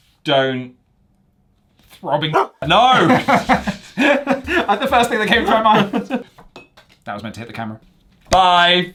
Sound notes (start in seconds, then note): 2.3 dog barks; 2.3 both laugh